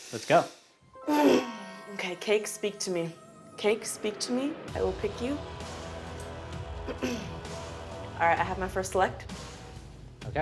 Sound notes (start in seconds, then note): 1.4 exhales